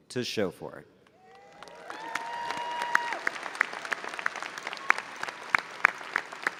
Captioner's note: audience applauding and cheering